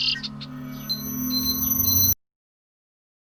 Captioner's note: songbird; beeping